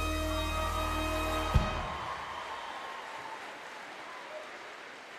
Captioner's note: audience cheering